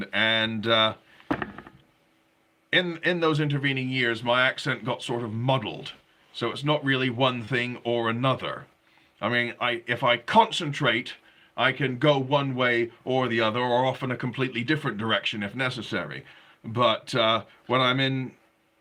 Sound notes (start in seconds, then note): none